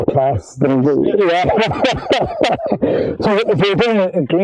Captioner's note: both laughing